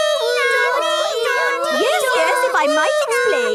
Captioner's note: children imitating sirens